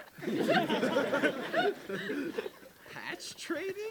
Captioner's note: laughter